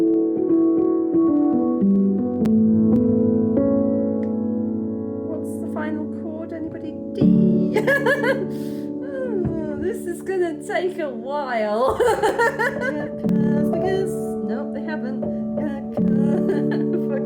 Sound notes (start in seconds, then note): 5.2 tinkling on piano; 8.7 laughing